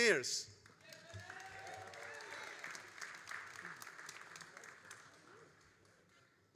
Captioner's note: all applauding and cheering